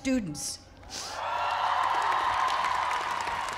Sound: cheering

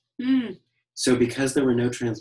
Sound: noise of interest

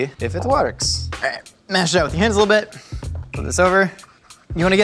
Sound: grunts

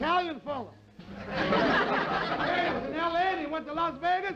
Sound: laughter

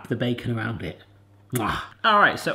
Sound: kissing noise

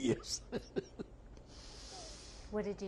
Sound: laughs

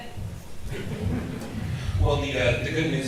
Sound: audience chuckles

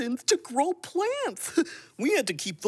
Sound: none

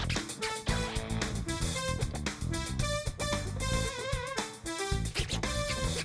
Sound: scratching continues

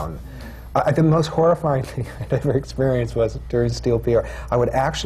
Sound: laughs

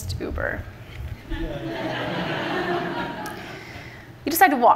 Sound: laughter from the audience

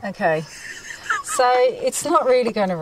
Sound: laughing

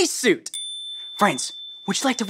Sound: bell dings

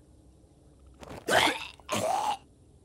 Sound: gags

